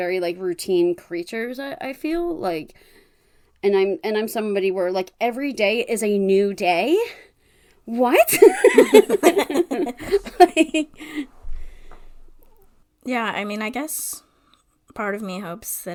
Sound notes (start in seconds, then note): 9.9 laughs